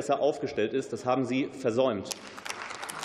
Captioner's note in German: Beifall